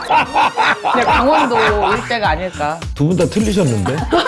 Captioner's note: fails to suppress her laughter